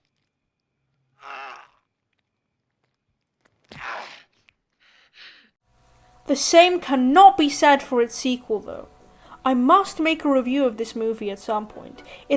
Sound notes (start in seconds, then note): 3.7 grunts of pain; 3.7 shocked gasp